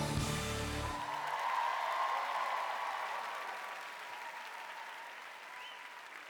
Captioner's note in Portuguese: audience cheering and applauding